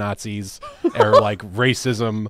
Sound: laughs

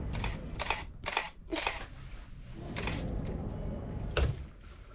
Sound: camera shutter clicking

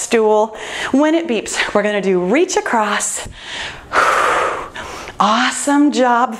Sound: exhales deeply

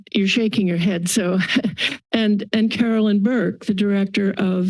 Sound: chuckles

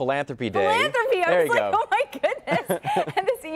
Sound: laughter

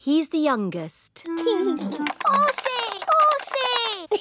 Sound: giggles

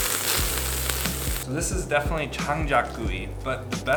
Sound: wood-fire

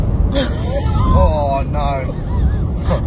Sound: laughs

